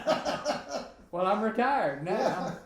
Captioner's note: both laughing